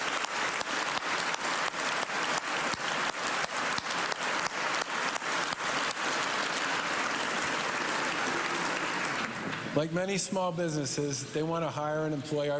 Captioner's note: cheers and applause